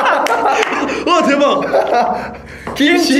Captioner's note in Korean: 웃음